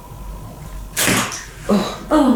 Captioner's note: door opens